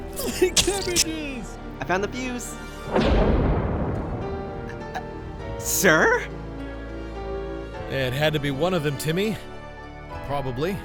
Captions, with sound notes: My cabbages! I found the fuse. [Stammering] Sir?! It had to be one of them, Timmy. Probably.